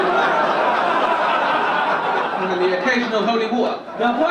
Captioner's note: audience laugh